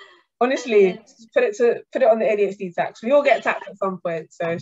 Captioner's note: laughter